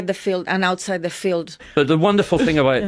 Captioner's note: laughs